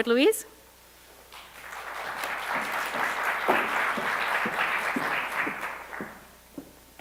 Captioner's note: applause